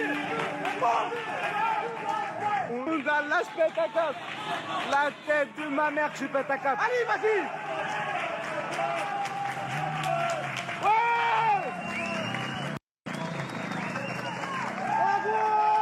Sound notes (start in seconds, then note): 3.3 shouting